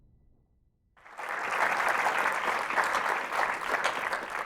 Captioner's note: applause